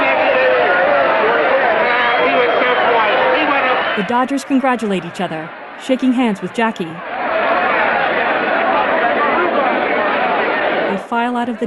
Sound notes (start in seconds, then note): 3.4 excited cheering